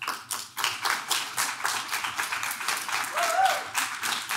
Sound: audience claps

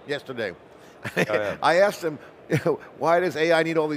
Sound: chuckles

